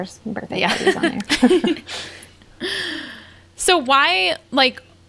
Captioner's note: they laugh